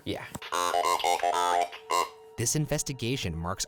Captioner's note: electronic beeping